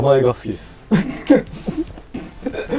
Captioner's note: holding a laugh